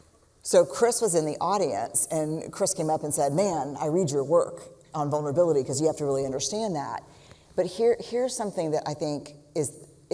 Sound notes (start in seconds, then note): none